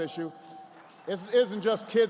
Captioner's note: applause